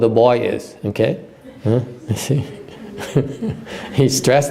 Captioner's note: laughter